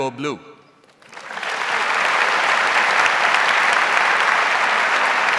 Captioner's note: audience applauds